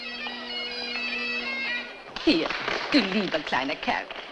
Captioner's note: applause